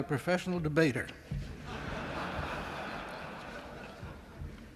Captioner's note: laughter